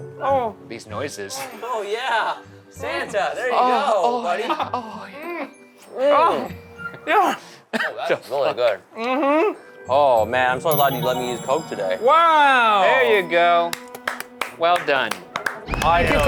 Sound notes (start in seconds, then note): 5.9 moaning; 8.2 laughing